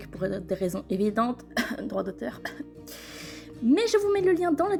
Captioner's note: cough